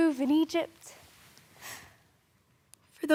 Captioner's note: sharp breath